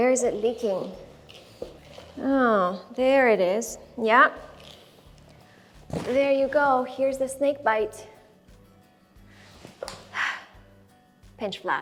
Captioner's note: sigh